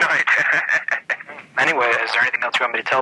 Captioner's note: laughing